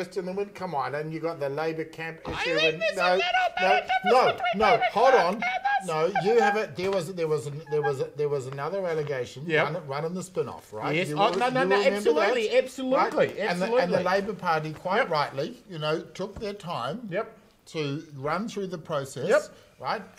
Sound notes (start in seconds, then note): 2.4 high pitched screaming